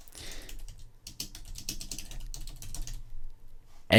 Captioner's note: typing